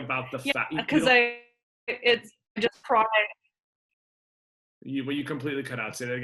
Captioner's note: audio glitching